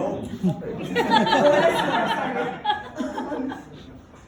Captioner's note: laughter